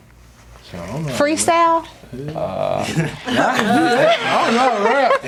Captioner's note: laughing